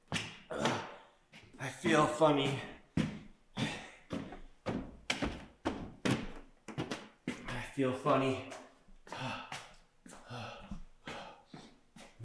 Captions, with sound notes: I feel funny. I feel funny. (panting)